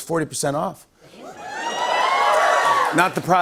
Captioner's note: cheers and applause